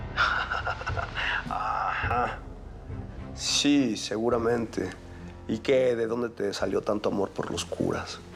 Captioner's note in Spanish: risas